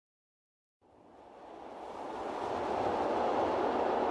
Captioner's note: wind whooshing